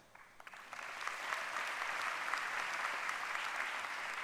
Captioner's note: applause